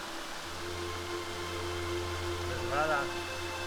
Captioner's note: speaking spanish